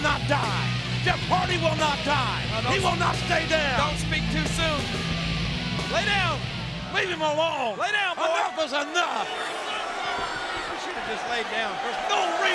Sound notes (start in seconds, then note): 9.8 audience chattering